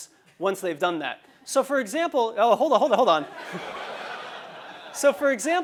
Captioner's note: laugh